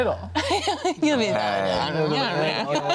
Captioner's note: laughs